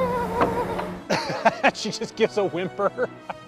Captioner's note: whimper